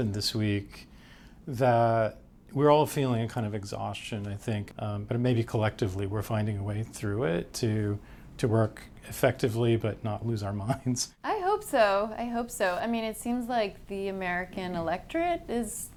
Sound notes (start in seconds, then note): 12.7 chuckles